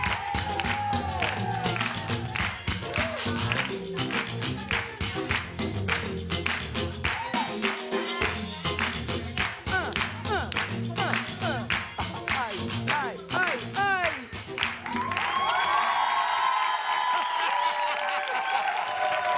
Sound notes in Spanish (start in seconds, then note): 3.9 Palmadas al compás; 10.7 Palmadas al compás; 17.0 Risas